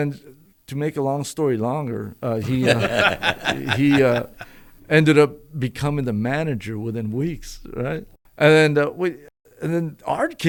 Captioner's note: laughter